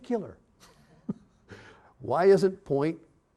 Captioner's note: chuckling